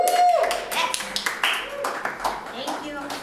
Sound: audience applauds

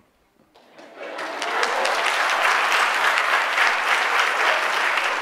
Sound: audience applauds

